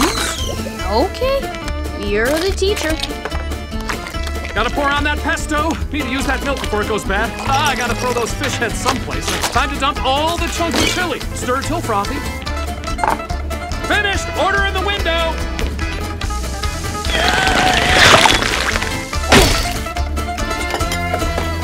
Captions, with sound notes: Okay, you're the teacher. Gotta pour on that pesto. Need to use that milk before it goes bad. Ah, I got to throw those fish heads someplace. It's time to dump all the chunky chili. Stir till frothy. Finished! Order in the window! [grunting]